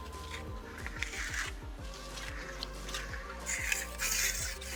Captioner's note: trowel scrapes